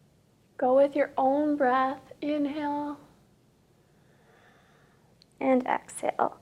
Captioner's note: inhales